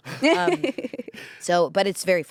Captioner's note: everyone laughs